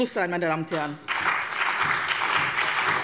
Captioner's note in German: Beifall bei dem BÜNDNIS 90/DIE GRÜNEN, der CDU, der SPD und der FDP